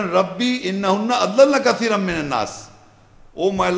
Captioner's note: Arabic